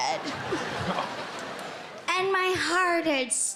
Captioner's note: crowd laughing